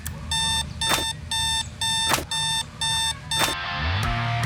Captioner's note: alarm beeps